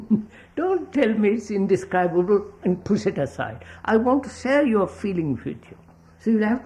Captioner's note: laughs